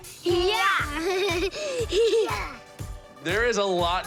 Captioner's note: giggling